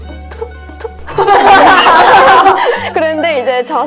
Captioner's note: laughter